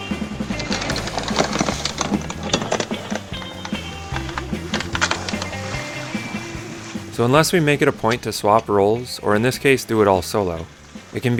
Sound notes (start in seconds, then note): 0.7 chain clinking; 3.8 upbeat music